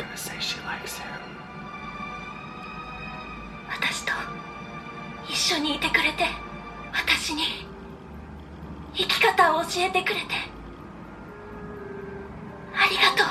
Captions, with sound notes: She's gonna say she likes him. (Attack on Titan Japanese audio)